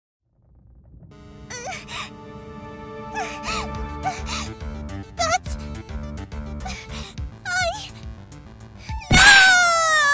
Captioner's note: stammering